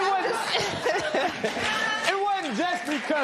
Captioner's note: laughter